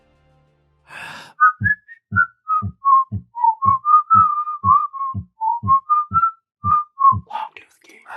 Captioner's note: whistling with animated logo